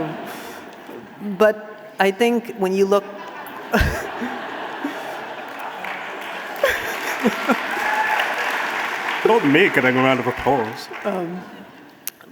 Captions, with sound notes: But I think when you look... (audience laughing) Not me getting a round of applause.